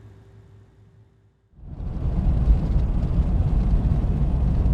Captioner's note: car rumbling